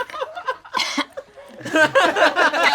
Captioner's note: people laugh; coughs; all laugh